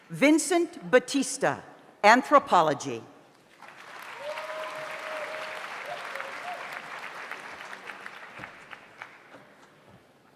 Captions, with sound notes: Vincent Batista, Anthropology. (audience applauds) (audience cheers)